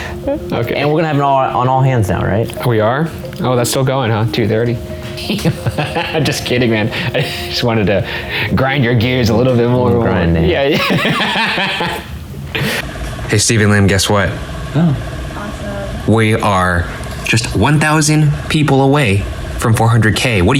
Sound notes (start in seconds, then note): 5.1 laughing